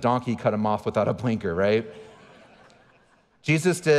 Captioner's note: audience chuckling